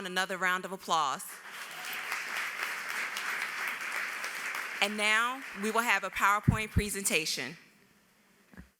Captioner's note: applause